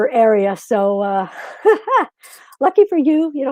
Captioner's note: chuckles